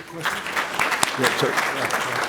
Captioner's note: applause